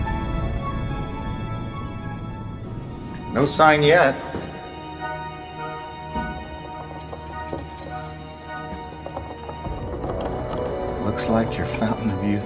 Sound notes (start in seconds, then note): 6.8 rat squeaking